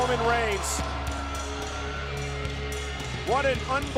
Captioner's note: crowd cheering